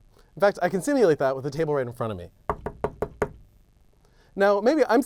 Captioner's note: knocking